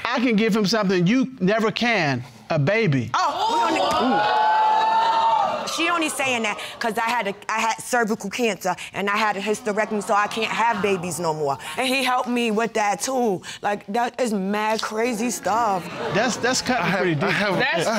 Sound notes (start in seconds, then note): 3.2 audience exclaiming